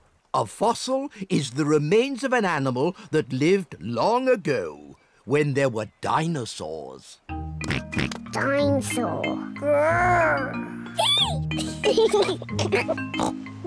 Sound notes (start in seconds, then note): 7.6 oinks; 10.0 roars; 10.9 both giggle